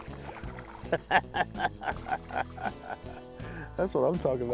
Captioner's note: laughs